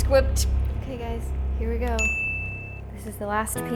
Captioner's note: bell dings